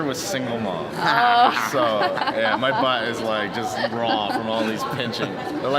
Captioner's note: laughs